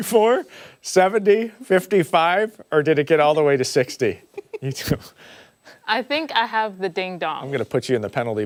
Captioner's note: laughter